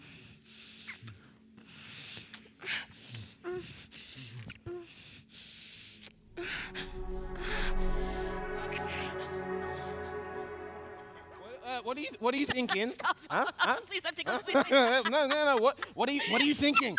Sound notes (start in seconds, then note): 12.5 Connie laughs; 14.7 Tristan laughs